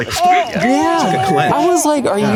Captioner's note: baby cooing; imitates squealing